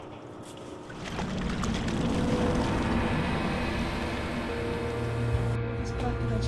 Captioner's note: splashing